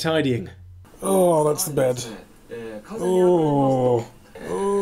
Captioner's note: generic moans and groans